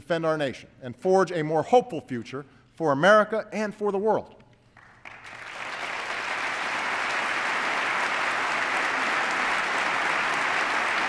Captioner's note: applause